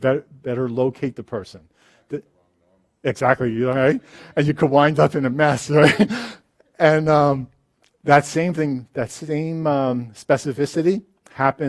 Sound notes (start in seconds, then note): 2.5 voiceover; 5.8 laughs